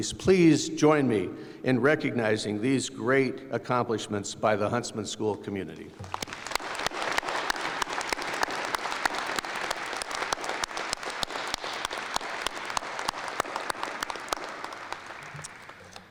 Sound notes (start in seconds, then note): 6.2 applause